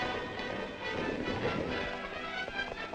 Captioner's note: horses galloping; exciting music continues